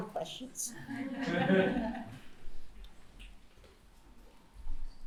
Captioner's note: laughter